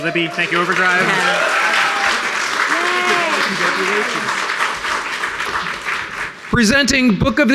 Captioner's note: applause